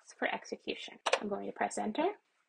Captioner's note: keyboard button pressed